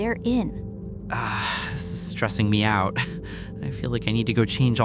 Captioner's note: laughs nervously